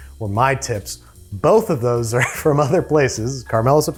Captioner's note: laughs